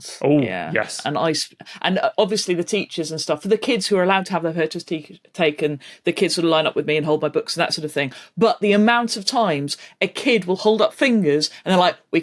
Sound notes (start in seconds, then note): none